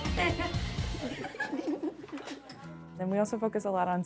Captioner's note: giggling